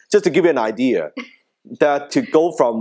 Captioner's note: laughing